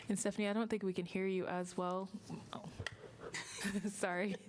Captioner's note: laughter